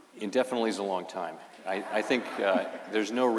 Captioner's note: laughter